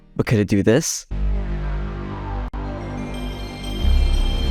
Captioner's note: PS1 startup plays